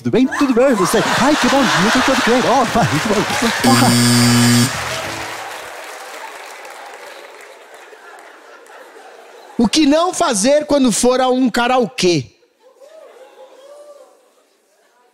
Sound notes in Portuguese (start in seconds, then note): 3.6 campainha